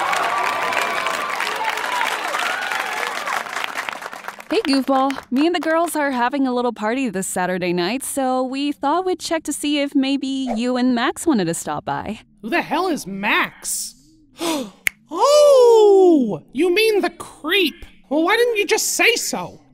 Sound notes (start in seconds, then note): 0.0 audience laughing and applause continues; 14.4 Goofball gasps and snaps